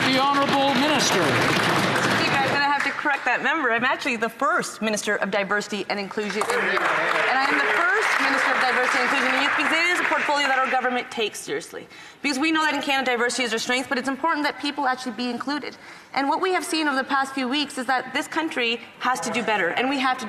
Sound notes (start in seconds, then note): 2.7 applause